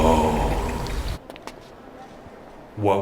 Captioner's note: footsteps